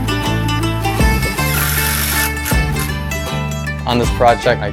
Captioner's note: drill whirring